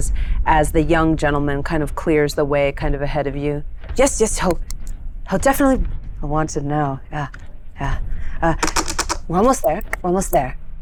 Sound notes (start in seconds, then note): 7.6 breathes heavily